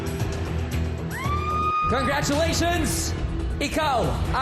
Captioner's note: audience screaming